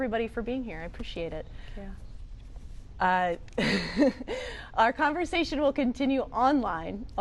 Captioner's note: laughs